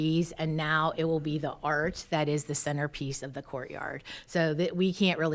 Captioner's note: none